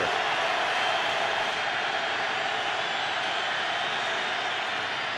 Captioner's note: crowd cheering